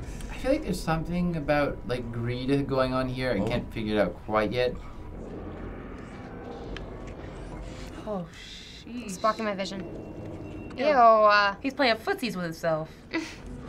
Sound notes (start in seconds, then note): 4.8 guests gobbling noisily